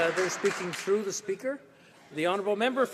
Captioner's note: applause